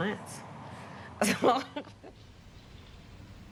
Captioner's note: laughing